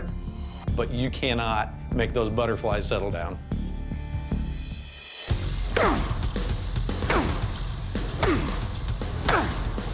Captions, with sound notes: But you cannot make those butterflies settle down. [grunting] [dramatic rock music playing]